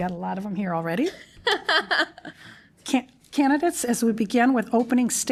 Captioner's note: laughter